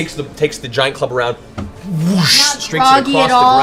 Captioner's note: whoosh